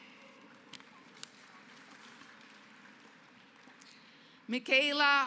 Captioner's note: applause